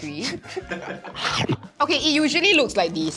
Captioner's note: nom